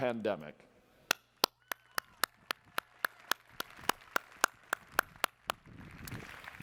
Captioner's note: applause